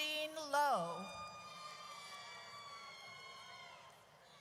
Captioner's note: audience cheers